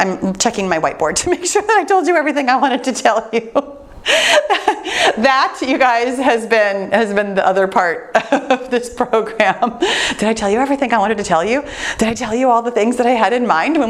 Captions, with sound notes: I'm checking my white board to make sure that I told you everything I wanted to tell you. (laughs) That, you guys, has been the other part of this program. Did I tell you everything I wanted to tell you? Did I tell you all the things that I had in mind